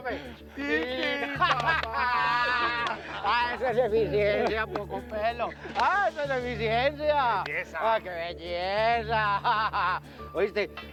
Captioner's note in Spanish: Carcajadas